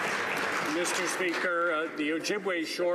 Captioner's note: some Applause